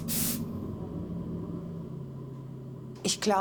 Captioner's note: hissing bursts of spray; continuous whir